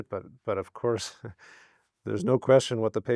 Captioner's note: chuckles